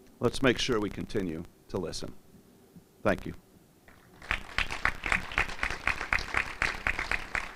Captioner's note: applause